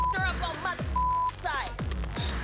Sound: beep

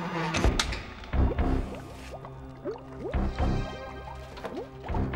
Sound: chemicals bubbling

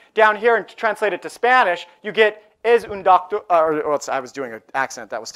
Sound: speaking spanish

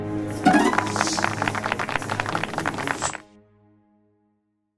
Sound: applause

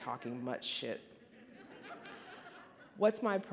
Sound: audience laughing

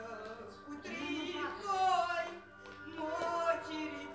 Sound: arrangements, chatting

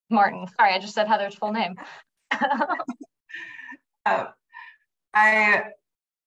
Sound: laughter

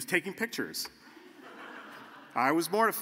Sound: laughter

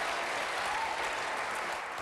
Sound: applause

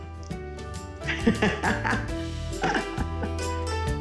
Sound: laughing

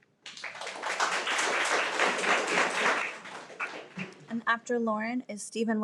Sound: everyone applauds

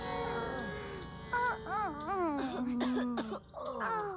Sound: pained groans and coughs

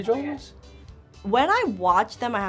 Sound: whispers

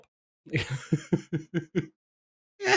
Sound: laughs

